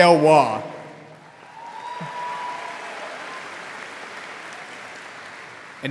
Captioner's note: audience applauding